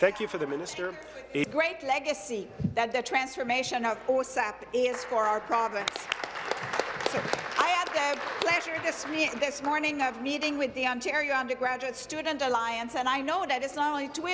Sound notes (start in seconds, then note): 3.3 speaking in French; 9.3 applause